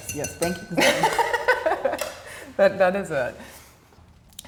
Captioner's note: laughs